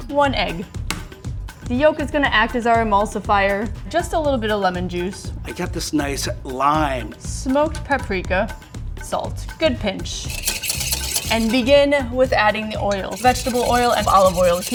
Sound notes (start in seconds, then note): 10.2 whisk scratching